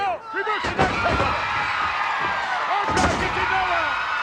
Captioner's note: audience cheering